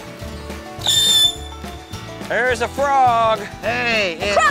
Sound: firework screeches

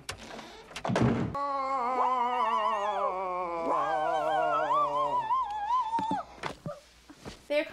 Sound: loud screaming and moaning

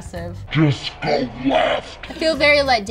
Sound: devil Voice

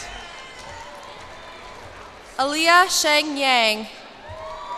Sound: cheers and applause

